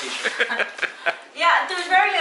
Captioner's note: laughs